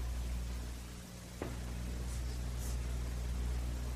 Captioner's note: door Closes